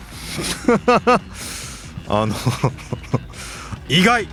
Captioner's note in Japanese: 笑い